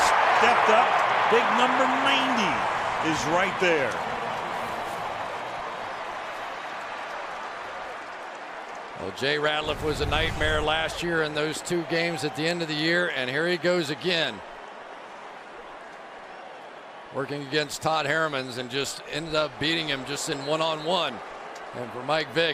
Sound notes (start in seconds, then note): 4.6 cheering